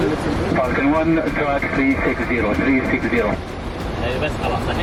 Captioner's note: pilot talking over radio